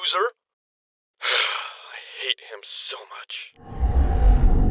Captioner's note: sigh